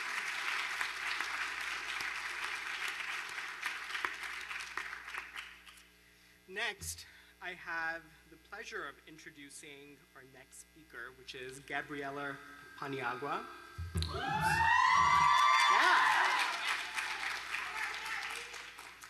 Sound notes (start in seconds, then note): 4.3 applause